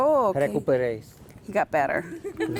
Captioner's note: patient speaking in foreign language